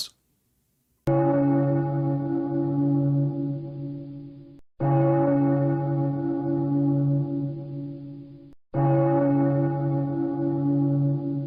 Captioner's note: bell tolling